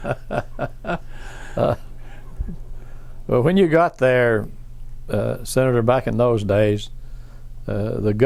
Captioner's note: laughs